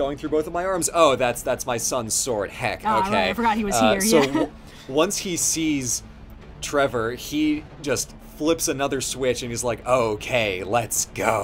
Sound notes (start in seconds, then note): 3.6 laughing